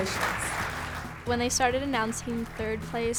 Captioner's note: applause